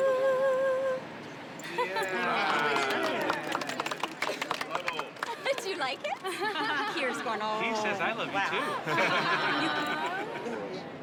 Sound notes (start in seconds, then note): 2.1 applause